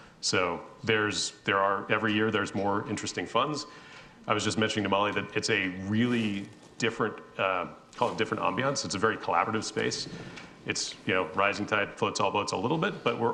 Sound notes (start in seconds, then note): none